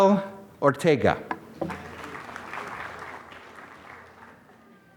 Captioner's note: applause